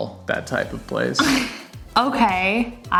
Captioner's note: chuckles